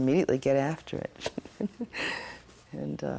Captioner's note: laughs